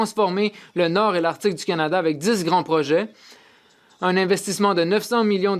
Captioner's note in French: voix de l'interprète